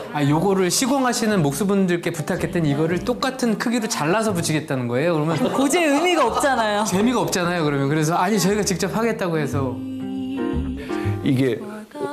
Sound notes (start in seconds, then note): 5.3 ㅎㅎㅎㅎㅎㅎㅎ